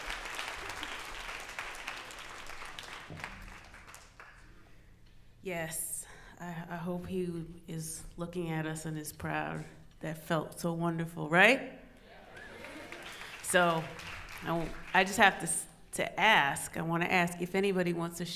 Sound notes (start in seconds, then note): 12.0 audience murmurs; 12.3 audience applauds